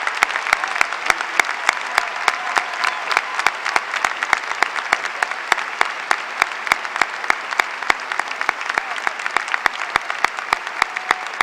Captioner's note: applause